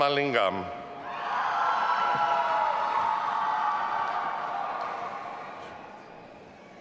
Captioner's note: audience applauding and cheering